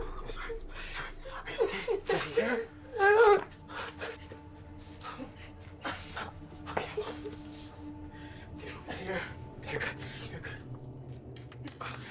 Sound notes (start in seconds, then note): 2.1 Jordyn crying